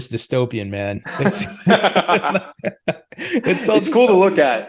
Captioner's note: laughing